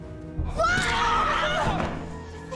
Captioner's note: both screaming